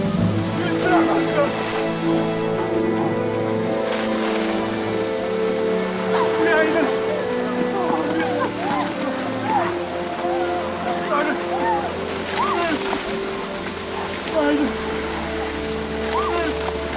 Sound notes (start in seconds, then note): 7.3 breathing heavily; 12.3 In-ho groaning in agony